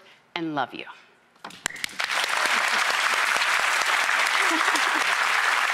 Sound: audience clapping

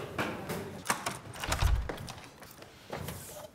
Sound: door opens

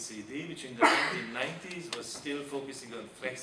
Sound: man coughing

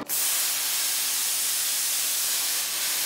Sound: hissing

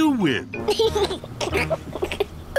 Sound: laughs; groans

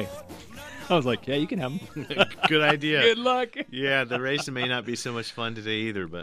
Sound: laughs

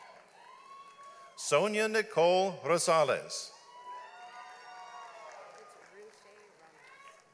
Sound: audience applauds

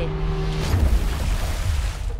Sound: water Splashing

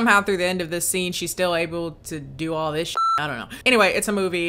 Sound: beep

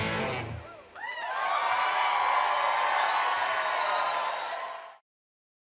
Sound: audience cheering

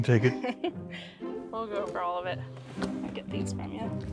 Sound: laughs

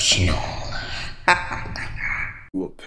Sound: Shards laughs

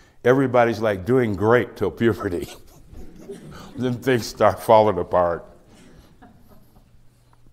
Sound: laughs

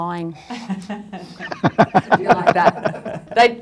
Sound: panelists laughing

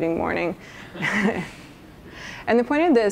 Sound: chuckles

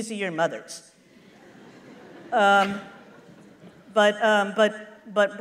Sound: laughter

